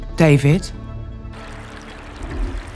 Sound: water seeps in under the door with a trickle

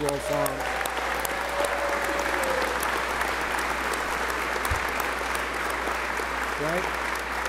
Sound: applause

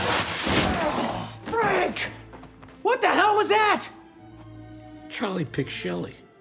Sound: groans

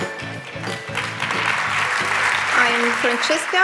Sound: applause

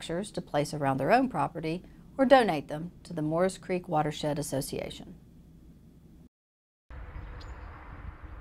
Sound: sounds of birds

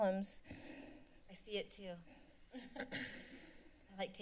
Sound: laughter

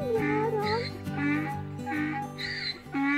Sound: donkey growling

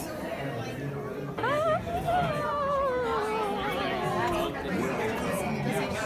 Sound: ghostly noises

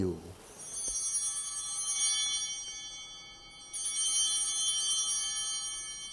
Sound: bell ringing

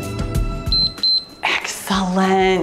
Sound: timer beeps

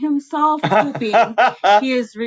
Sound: laughing

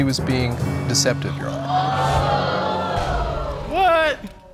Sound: audience exclaiming

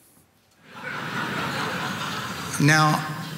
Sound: audience laughing

